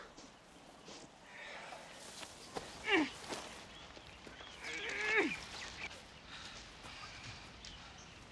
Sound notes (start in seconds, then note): 2.8 ladies groaning